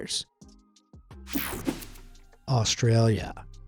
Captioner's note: swoshing